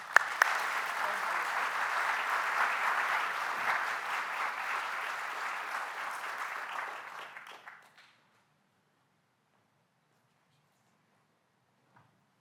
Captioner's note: applause